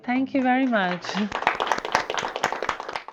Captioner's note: group applauds